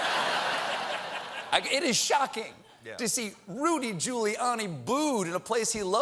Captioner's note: laughter